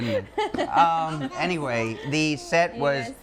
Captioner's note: people laughing